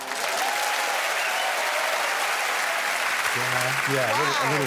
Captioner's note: applause